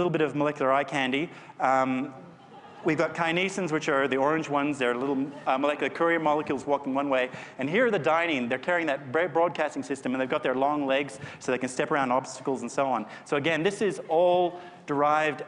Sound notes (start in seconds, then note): 2.2 laughter